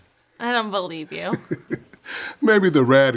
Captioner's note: laughs